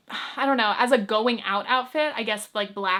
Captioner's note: sighs